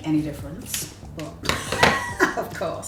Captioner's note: laugh